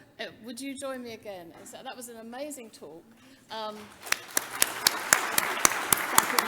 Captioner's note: audience applause drowns out speakers' conversation